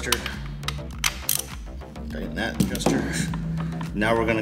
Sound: single ratchet

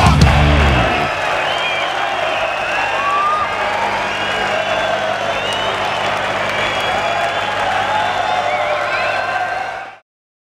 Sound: applause

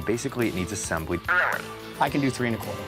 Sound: on phone

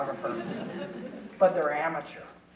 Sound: audience chuckling

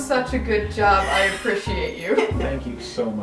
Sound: laughing

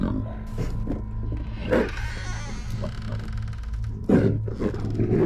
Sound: door squeaking

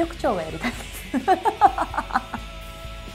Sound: laughs

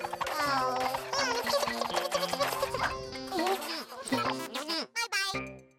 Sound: chattering happily

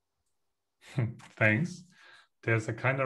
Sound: chuckles

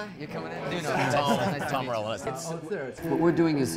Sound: laughing

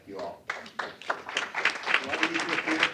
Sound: applause

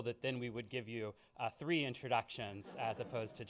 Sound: laughing

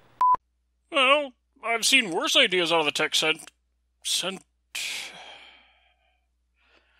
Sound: sigh

